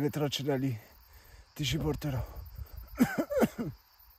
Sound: coughs

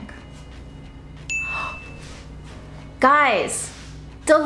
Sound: dinging

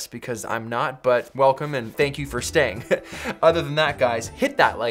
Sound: laughs

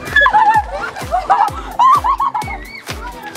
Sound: screams

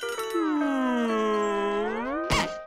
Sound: groaning

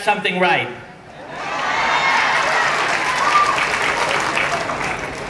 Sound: cheering and clapping

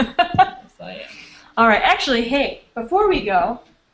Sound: laughter

